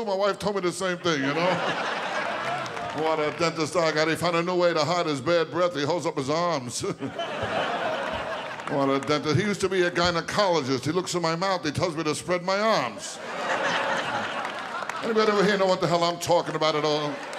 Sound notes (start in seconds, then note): 12.9 audience laughing